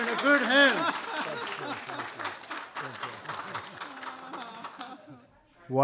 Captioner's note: applause